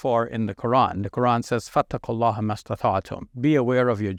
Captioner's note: speaking in Arabic